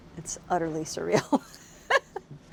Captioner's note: laughter